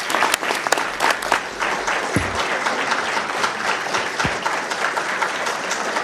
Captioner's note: crowd applauds